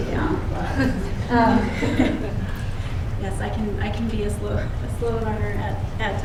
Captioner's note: laughter